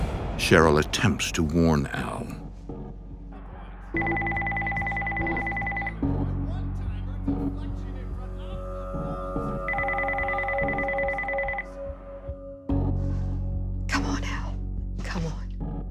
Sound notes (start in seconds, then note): 4.0 phone ringing; 5.7 chatter on the TV